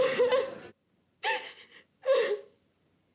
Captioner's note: crying